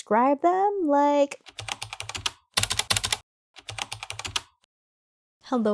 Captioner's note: typing